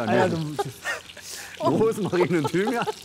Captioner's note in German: Lachen